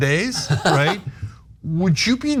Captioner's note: laugh